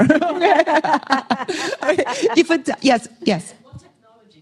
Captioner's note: laughter